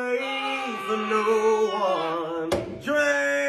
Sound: girl grunts

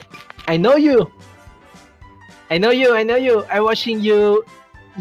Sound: none

